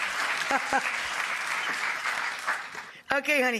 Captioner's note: audience applause